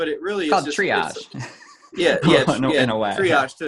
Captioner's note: chuckles